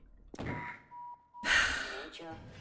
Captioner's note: sighs